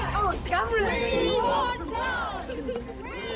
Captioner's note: crowd